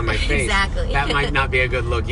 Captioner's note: laughs